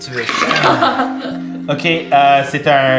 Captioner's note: Zara laughs